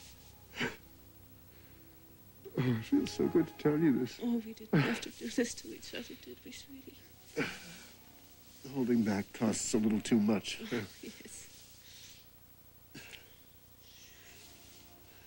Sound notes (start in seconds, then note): 0.0 sobs; 4.5 sobbing